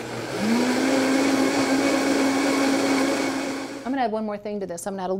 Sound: blender whirring

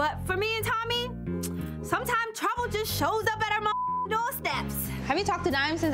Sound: beep

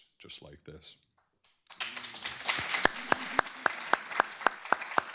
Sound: applause

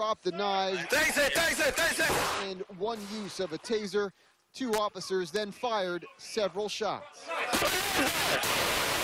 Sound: shouting

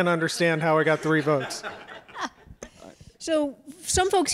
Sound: audience laughs

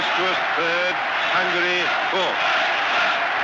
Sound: cheering

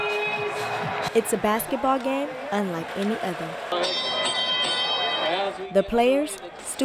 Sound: bell ringing

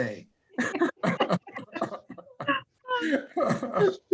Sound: laughter

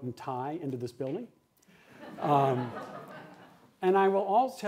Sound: laughter

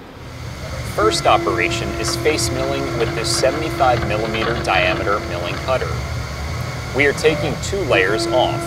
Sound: machining noises

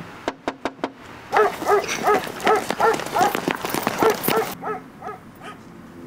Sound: knocks again; dog barks

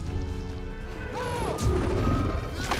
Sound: shouts

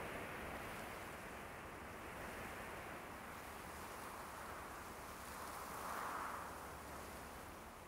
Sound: wind gusting

